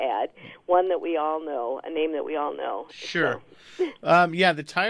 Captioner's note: laughs